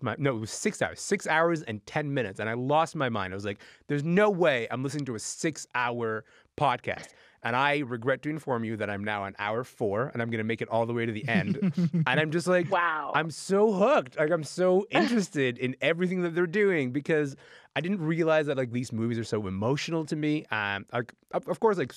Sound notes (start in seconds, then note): 11.1 laughing